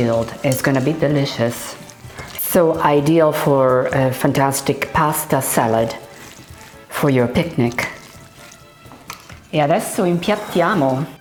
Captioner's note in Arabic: يتحدث الإيطالية